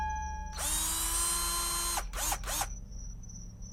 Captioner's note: drill buzzing